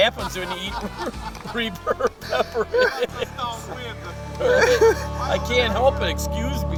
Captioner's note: laughing